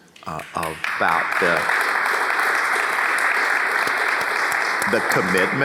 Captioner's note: audience applauds